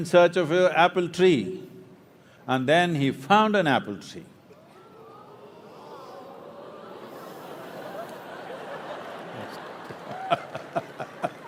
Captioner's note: applause